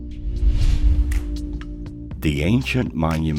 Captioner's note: air whooshing